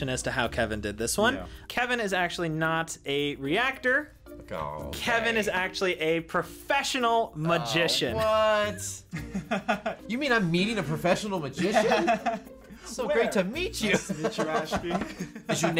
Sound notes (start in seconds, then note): 9.1 laughs; 13.9 laughs